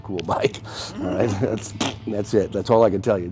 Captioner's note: blows raspberry